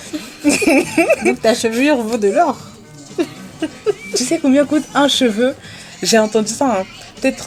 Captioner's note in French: rires